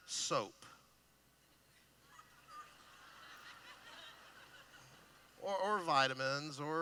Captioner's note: laughing